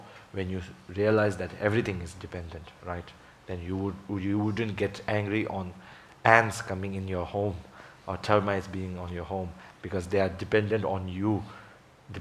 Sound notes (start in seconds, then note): none